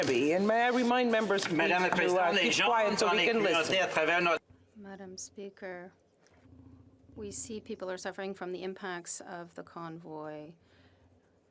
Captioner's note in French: voix de l'interprète